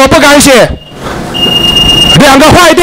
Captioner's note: timer beep